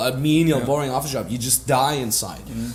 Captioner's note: none